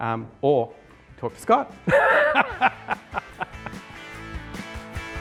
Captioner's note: laughs